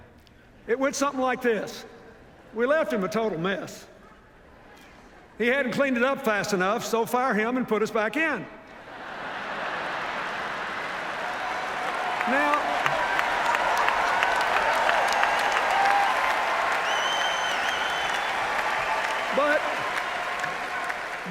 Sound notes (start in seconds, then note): 8.7 laughter, applause; 12.9 cheers, applause